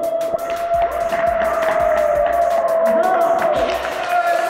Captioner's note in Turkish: Alkışlar